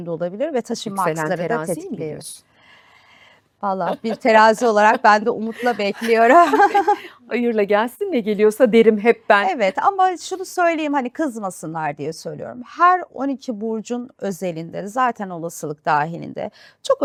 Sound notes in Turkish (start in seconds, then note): 5.6 kahkaha